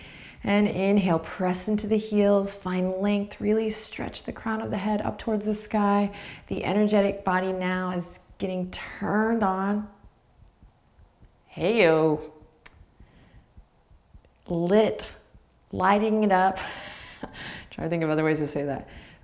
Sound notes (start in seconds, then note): 16.6 laughs